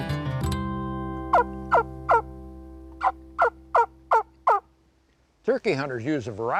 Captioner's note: wing bone turkey call clucking